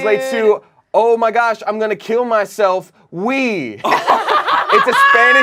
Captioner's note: laughs